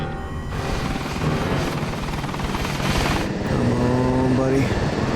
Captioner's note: helicopter blades whirling